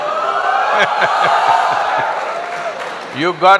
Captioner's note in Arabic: ضحك وهتاف